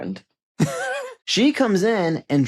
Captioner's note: chuckles